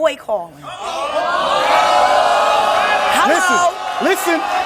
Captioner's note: audience exclaims in disbelief